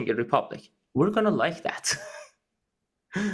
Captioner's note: laugh